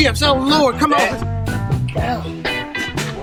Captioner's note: Gary mumbles